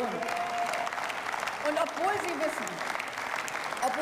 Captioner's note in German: Beifall